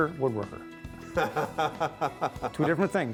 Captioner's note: laughs